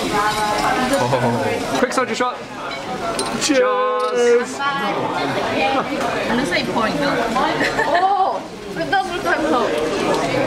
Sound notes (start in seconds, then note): 3.5 cheers